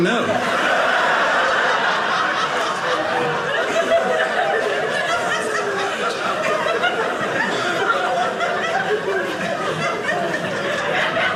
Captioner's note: audience laughing